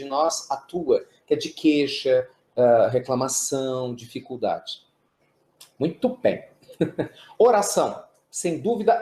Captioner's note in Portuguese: risos